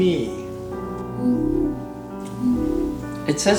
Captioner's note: scan sound